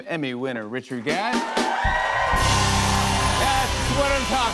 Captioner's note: cheers and applause